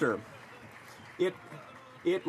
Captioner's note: some Applause